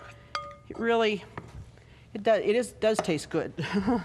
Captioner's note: chuckling